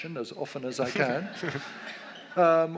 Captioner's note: audience laughs